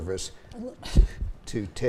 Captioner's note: scoffs